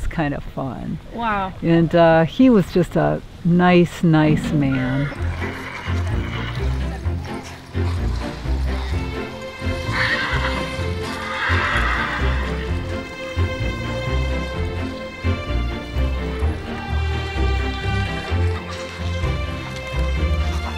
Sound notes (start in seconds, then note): 5.1 horse whinny; 7.5 energetic western music begins